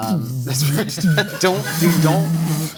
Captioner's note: vocalizing; crew laughing